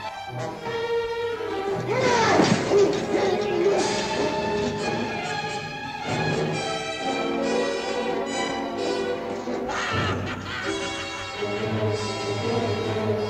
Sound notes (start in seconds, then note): 1.6 scuffling; 1.8 groaning